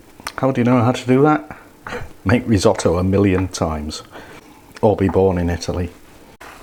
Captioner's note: laughs